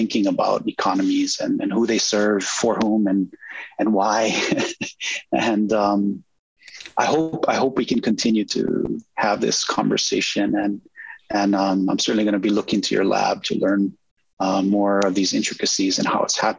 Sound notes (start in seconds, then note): 3.3 laughs